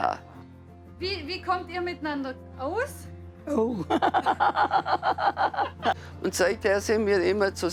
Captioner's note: laughs